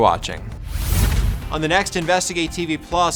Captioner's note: air whooshing